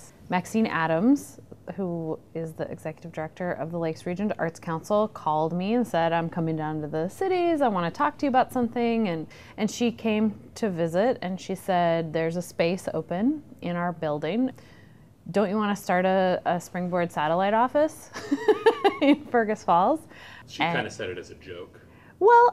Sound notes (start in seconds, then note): 18.6 laughing